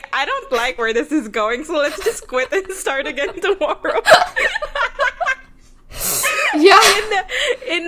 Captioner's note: laughs; both laughing